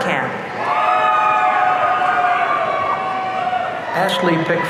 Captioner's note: audience cheering